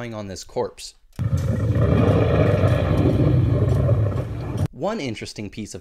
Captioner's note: growling